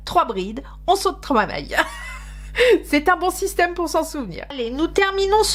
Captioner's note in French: rires